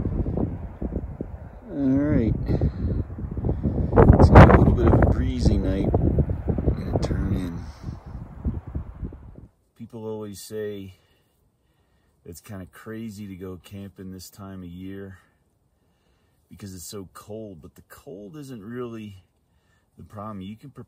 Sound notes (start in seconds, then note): 4.2 wind noise